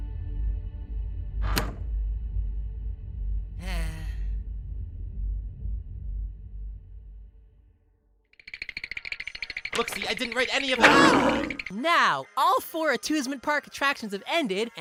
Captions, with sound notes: [SIGH] Look see, I didn’t write any of–AHHHH! Now, all four atwosment park attractions have ended,